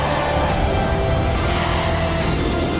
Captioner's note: jet engine roars